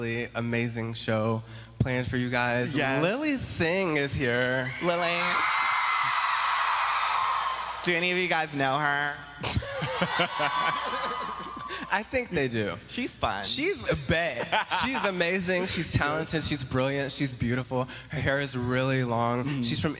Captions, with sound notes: STREETS. WE HAVE A REALLY AMAZING SHOW PLANNED FOR YOU. >> LILY SING IS HERE. [APPLAUSE] >> DO ANY OF YOU GUYS KNOW HER? SHE IS AMAZING, TALENTED AND BEAUTIFUL.